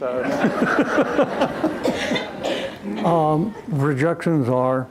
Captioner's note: laughter